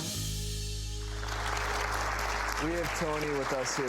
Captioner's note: audience applause